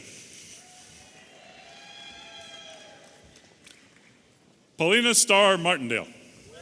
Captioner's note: audience applauding and cheering